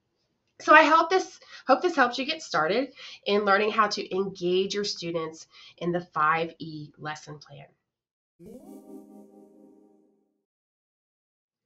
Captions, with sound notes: I hope this helps you get started in learning how to engage your students in the 5E lesson plan. [Electronic sound]